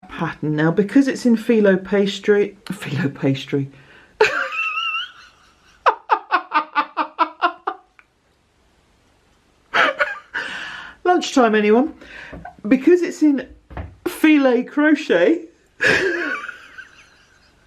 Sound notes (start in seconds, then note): 4.2 laughter